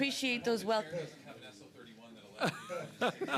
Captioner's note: laughter